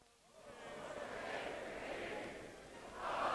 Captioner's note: crowd chanting